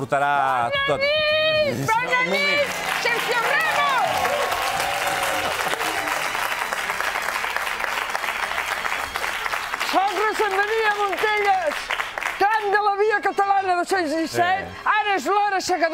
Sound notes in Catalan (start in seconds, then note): 7.6 aplaudiments